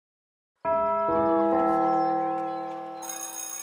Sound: bell chimes

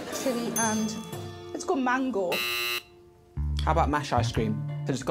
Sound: buzzer rings

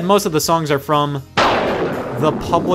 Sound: thunder

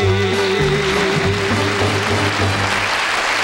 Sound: audience applauding

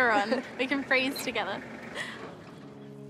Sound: laughs

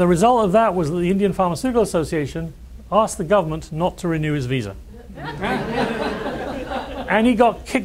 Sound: laughs

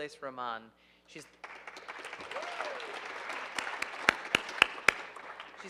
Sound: audience applauding

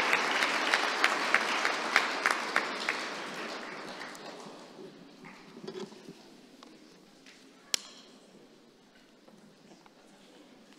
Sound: applause

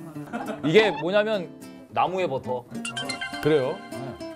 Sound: gulp~

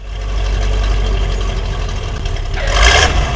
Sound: engine noise; skid

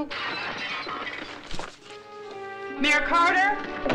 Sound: glass shattering

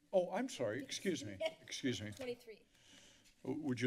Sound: woman laughing

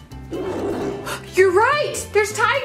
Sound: animals growling

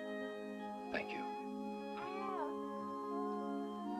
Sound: baby cooing

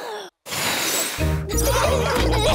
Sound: blows; laughter

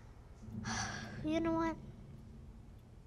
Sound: sighs

